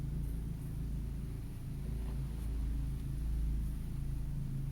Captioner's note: none